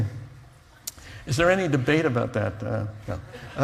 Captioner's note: laughs